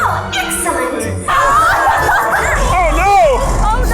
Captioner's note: group screaming